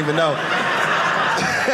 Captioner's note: audience laughing